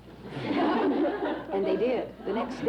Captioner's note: laughter off-screen